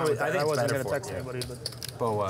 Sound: table chatter

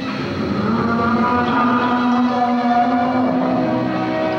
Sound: train whistle

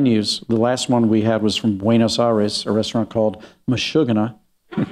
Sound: laughter

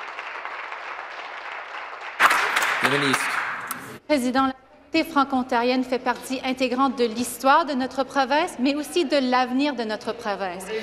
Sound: applause

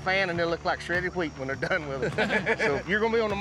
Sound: everyone laughs

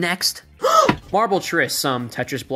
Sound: gasp

